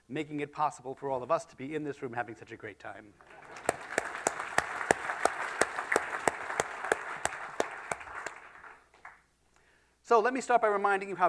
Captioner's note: applause